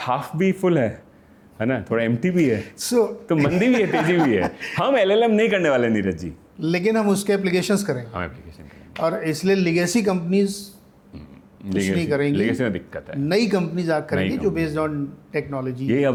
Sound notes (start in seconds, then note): 11.1 clearing throat